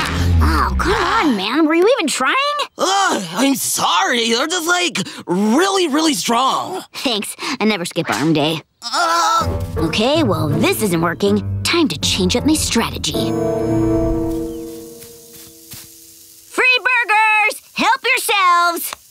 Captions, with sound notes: Ah, come on man. Were you even trying? Ugh, I'm sorry. You're just like, really really strong. Thanks, I never skip arm day. [groaning] Okay, well. this isn't working, time to change up my strategy. Free burgers! Help yourselves!